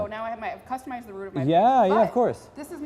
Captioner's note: laugh